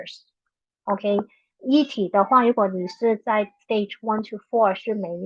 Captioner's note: speaking chinese